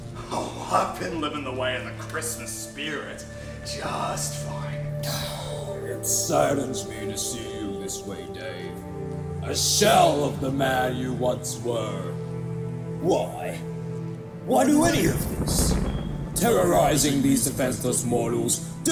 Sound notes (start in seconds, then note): 4.8 sighs